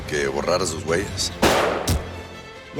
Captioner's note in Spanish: Disparo